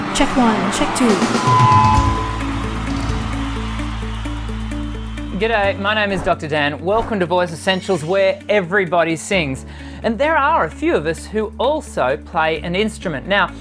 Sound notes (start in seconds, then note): 1.5 crowd cheering; 1.5 upbeat music